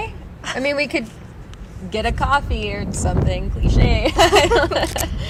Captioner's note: laughs